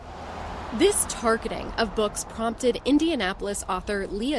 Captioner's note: voice-over